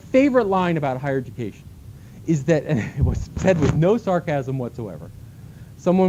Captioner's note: laughter